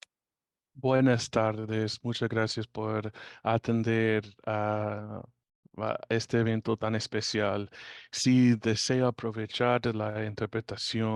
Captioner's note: speaking Spanish